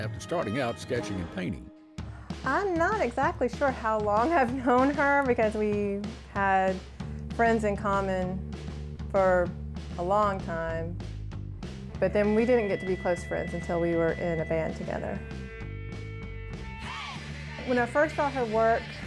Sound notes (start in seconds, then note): none